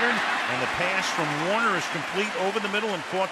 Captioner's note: cheering